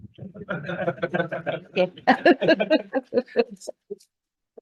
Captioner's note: all laughing